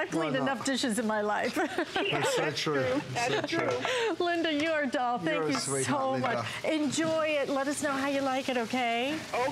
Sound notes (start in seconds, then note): 1.5 laughter